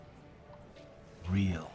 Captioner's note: none